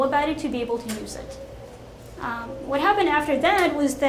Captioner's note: none